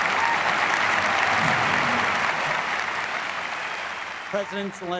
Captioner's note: students continue cheering and applauding